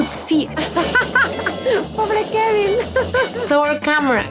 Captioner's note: laughs